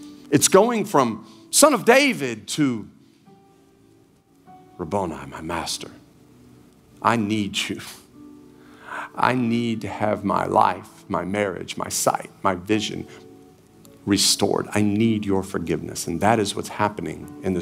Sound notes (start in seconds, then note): none